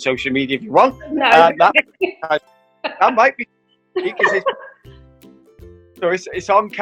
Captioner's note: laughing